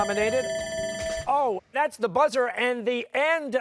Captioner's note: timer sounding